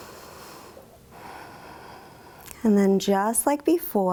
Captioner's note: inhales; exhales